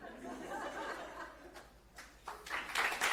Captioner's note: audience laughing; audience clapping